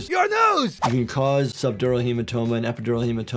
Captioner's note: audio whooshes